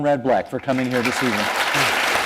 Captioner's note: applause